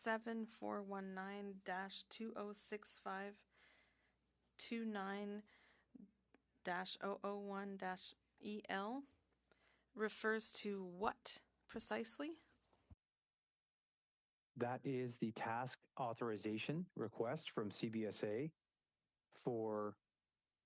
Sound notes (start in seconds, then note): 5.5 speaking French